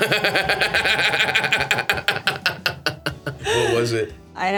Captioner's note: Stavros laughs